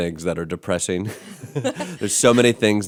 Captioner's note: laughter